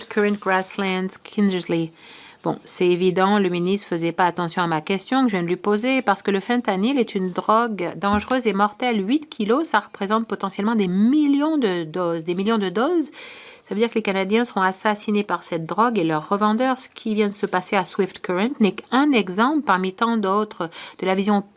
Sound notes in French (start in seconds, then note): 4.9 voix de l'interprète